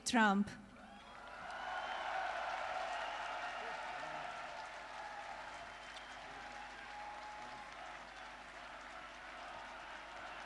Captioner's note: applause